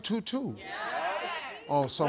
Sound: audience agreeing

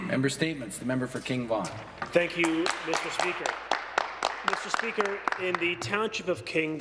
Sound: some Applause

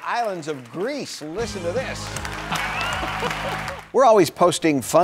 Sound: audience applauding

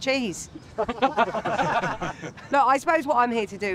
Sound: laughing

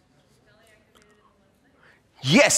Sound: speaking off microphone

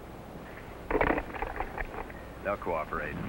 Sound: phone clicks

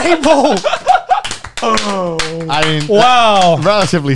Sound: everyone claps

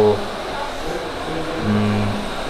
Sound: boo

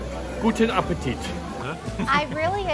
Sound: speaks German

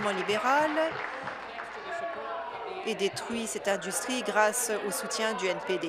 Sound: applause

